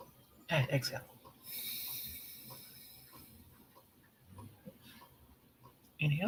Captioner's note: exhaling